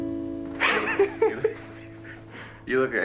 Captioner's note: laughs